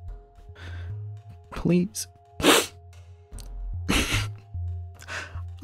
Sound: he begins to sob

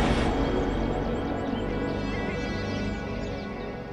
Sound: birds chirping

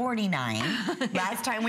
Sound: laughter

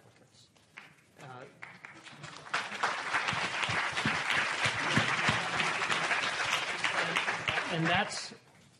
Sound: applause

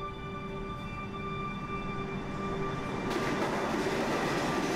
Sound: machines clanking

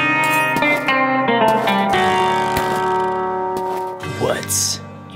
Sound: gentle guitar music; footsteps crunching; spurs jingle

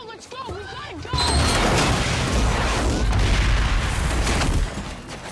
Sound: train crashing

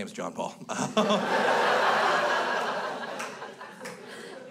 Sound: crowd laughs

